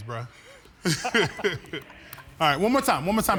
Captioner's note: laughter